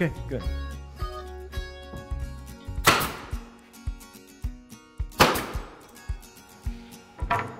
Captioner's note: gentle music; nail gun shooting nails